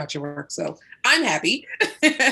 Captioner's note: laughs